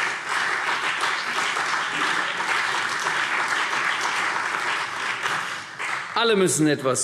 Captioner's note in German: Beifall